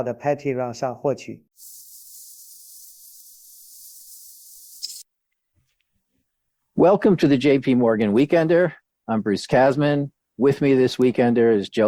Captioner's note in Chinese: 蝙蝠鸣叫